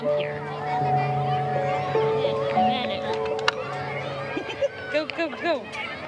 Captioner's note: gentle music; children murmuring; chuckles